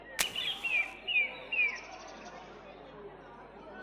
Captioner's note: striking match